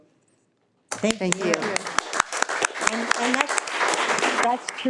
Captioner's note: all applauding